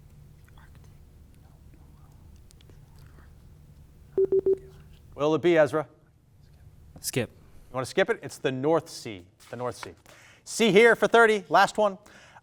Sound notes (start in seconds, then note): 4.2 timer beeping